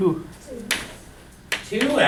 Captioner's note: voiceover